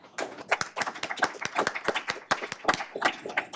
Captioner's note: loud applause